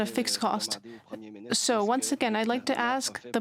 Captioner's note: speaking French